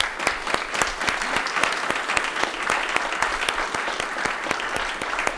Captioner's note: applause